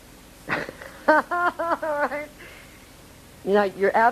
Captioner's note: laughing